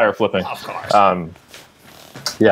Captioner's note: cheeky Νίκος Σαμαράς impression